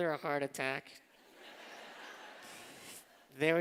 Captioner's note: laughter